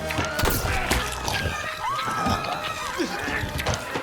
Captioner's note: flesh squishing; tranquilizer gun whirring